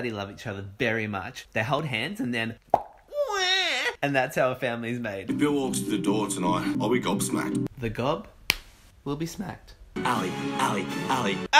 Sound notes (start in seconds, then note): 2.7 pop; 8.0 smacking sound